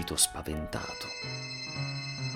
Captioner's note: phone ringing